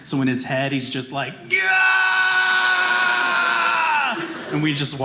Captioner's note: shouting